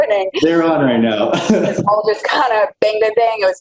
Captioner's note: laughs